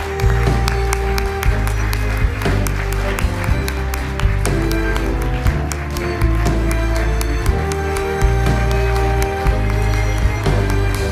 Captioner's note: applause